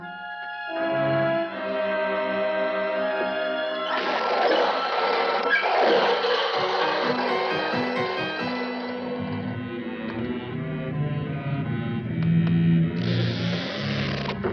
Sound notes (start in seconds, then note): 3.2 buggy screeches; 12.9 door creaks